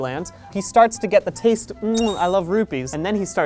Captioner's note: mwah